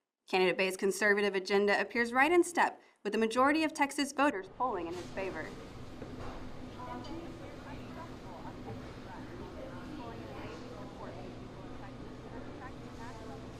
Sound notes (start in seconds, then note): 7.2 reporter chattering